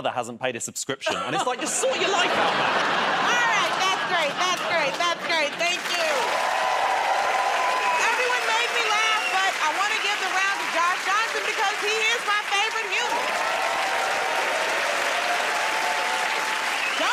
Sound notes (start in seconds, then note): 1.0 laughter; 6.7 cheering and applause; 13.7 cheering and applause